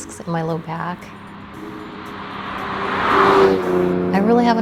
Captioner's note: car drives